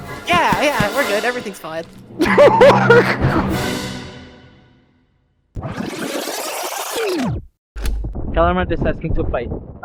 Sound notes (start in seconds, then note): 2.2 bewildered laughter